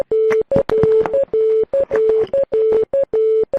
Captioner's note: computer Tones